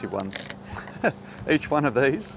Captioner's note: laughs